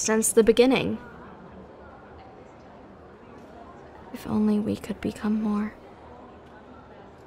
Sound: whisper to self

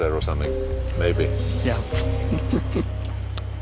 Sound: chuckling

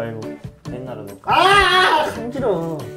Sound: screaming comes out in salon

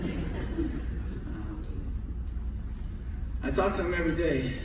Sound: laughing

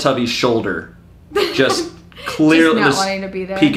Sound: laughs

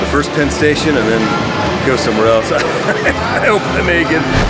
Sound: laughter

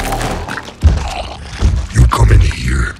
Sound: feet stomping

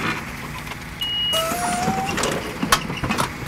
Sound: loud banging; beep

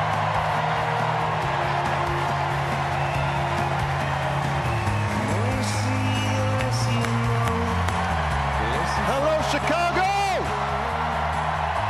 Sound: cheers and applause

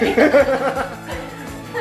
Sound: both laughing

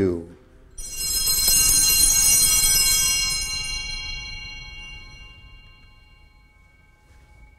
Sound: bells ringing

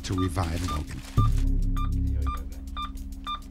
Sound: monitors beeping

